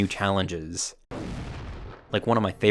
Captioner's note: bomb blasting